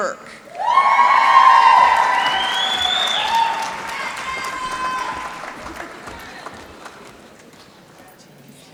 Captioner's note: applause